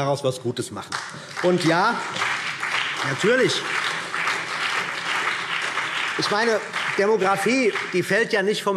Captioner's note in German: Beifall CDU und BÜNDNIS 90/DIE GRÜNEN